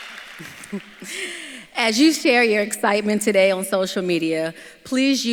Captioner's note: laughs